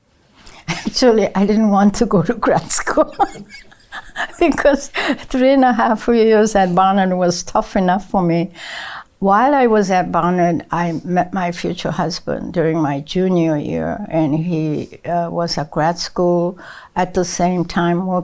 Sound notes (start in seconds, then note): 2.6 laughs